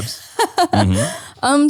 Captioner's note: laughing